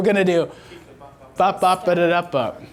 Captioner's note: voiceover